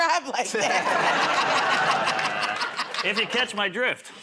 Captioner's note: laughter